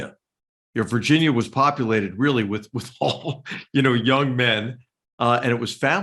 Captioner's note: laugh